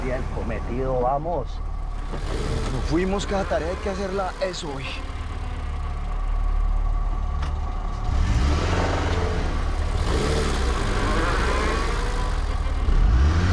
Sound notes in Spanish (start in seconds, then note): 8.5 Sonido del carro